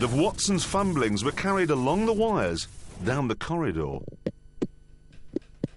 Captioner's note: tapping